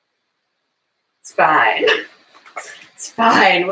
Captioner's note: laughs